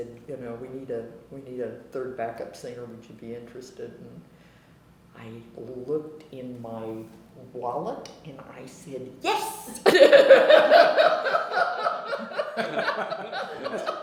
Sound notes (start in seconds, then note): 9.8 laughter